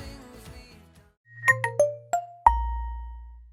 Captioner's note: Nokia tune startup ringtone